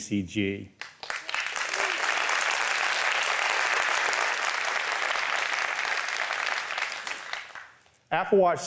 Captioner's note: applause